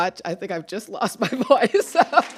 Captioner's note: chuckles; applause